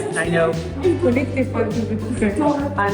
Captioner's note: participants chat and laugh